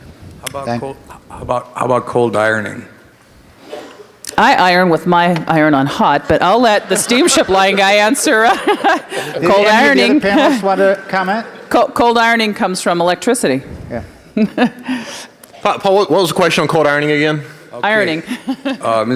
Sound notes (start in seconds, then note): 11.3 multiple voices speaking